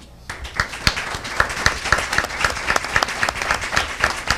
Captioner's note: audience applauding